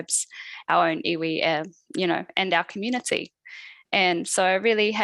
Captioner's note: non-english speech